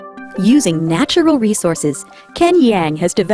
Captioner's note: voiceover